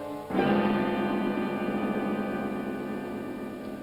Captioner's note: starting tone